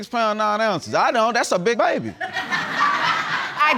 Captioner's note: audience laughs